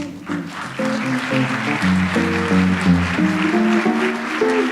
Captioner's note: audience applauds